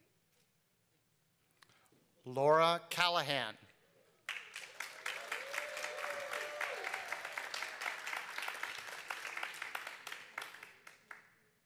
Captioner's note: applause